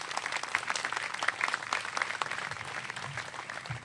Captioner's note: applause